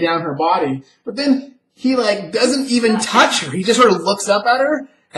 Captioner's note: laughs